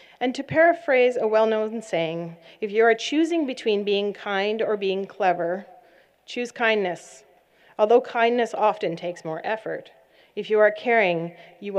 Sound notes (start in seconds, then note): none